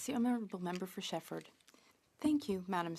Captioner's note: speaking French